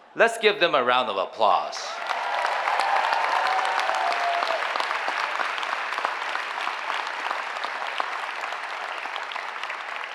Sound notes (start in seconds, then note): 1.8 cheering applause